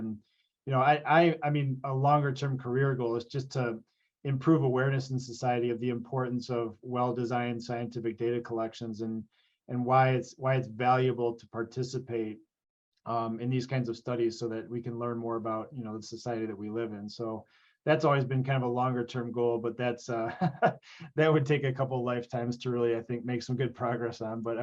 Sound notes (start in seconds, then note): 20.3 laughs